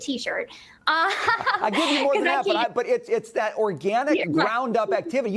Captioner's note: laughter